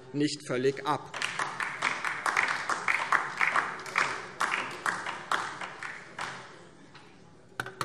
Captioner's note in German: Beifall DIE LINKE